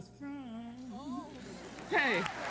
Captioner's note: applause